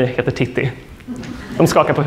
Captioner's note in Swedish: skratt